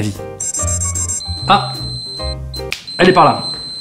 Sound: beeps

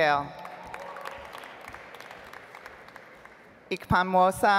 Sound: audience applauds

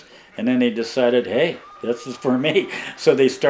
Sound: laughing

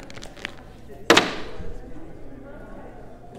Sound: bag hits the floor

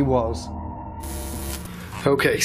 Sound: static crackling

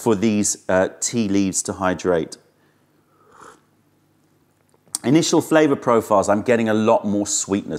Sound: sips tea

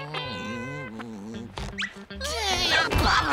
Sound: giggling

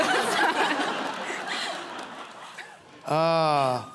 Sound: laughter

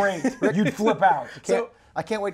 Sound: laughs

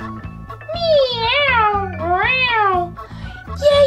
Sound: cat meowing

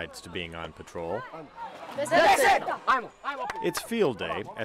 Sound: enthusiastic chant

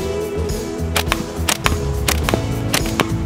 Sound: thwack

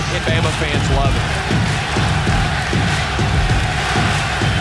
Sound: fans cheering

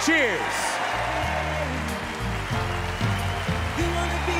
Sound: cheering

